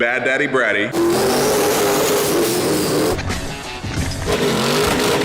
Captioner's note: engine revving